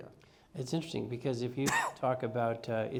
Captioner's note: cough